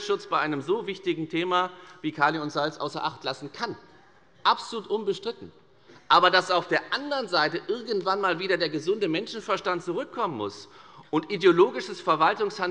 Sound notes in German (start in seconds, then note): none